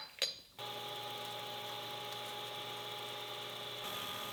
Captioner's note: lathe whirring